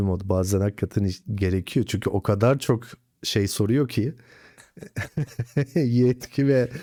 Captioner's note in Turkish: kahkaha